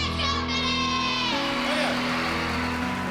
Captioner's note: applause